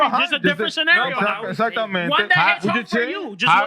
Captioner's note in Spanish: Hablando en idioma extranjero